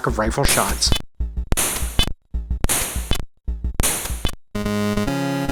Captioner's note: rifle shots and reloading